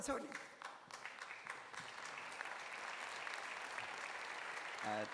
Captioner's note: applause